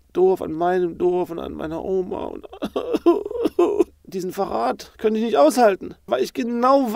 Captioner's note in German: Weinen